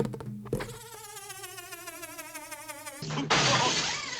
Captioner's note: winding-down sound